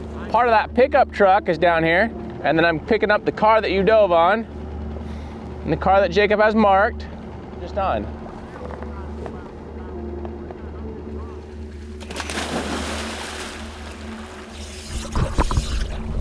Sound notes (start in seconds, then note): 8.8 eerie music; 12.1 water swishing